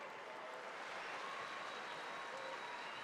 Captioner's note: cheering and applause